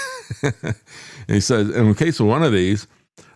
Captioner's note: laughs